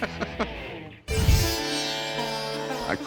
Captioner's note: laughs; asian music